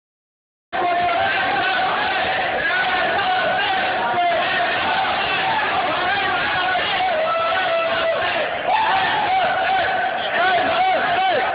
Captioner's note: crowd chants “ron paul!” “ron paul!”